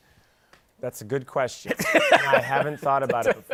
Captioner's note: laughs